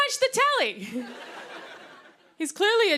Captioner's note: laughter